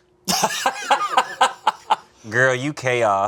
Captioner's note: both laughing